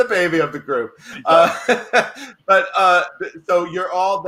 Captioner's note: laughs